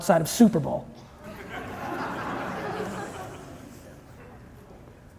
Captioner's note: audience chuckling